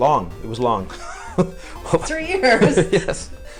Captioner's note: laughter